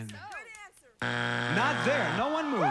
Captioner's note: buzzer